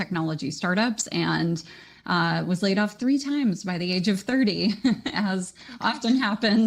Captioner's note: chuckles